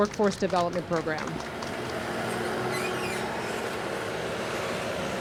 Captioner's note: engine whirring